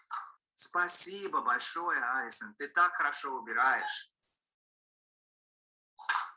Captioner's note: man speaking in foreign language